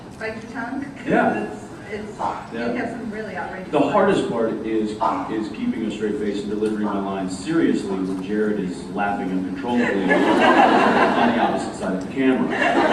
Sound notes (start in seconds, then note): 9.7 laughs; 12.4 laughs